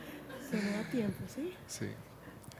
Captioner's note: speaking spanish